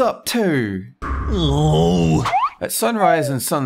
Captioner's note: whines unhappily